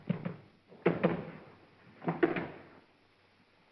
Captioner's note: knocking on wall; hollow knocking sound